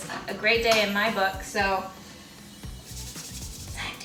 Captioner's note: hands rubbing